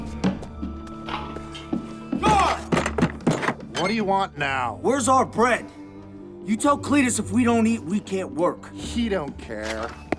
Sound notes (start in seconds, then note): 2.2 banging